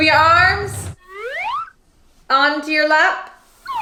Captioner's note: slide whistle blows